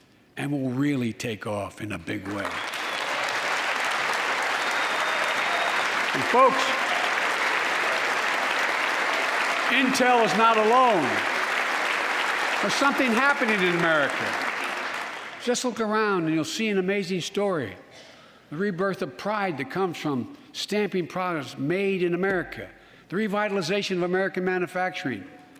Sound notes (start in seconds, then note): 11.1 applause